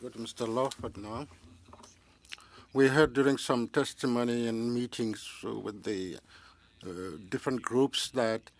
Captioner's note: speaking French